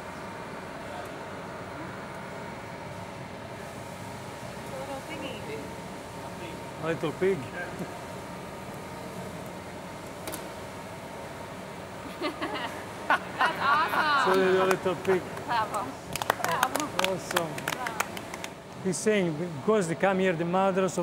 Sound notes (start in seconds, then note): 12.1 all laughing; 16.0 applause